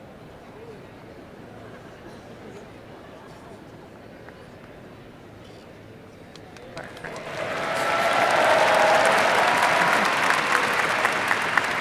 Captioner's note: applause